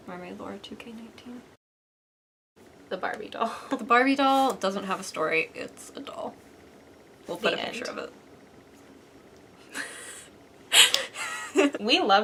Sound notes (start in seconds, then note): 10.7 laugh